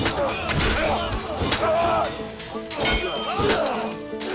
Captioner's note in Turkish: Kılıç sesleri